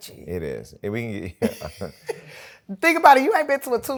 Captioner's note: laughter